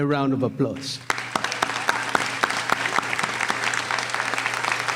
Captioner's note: applauding